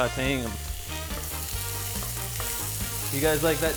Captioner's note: pan sizzle